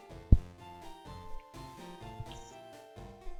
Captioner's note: shimmy sounds